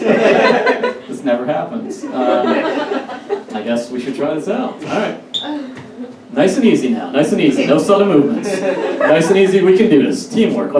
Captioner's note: audience Laughs